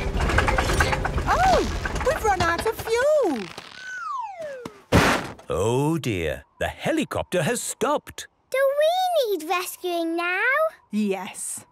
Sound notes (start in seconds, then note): 0.0 helicopter engine sputtering; 4.7 bangs